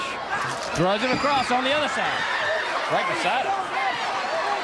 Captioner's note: crowd chatter